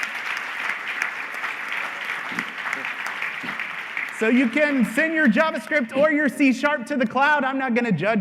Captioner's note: applause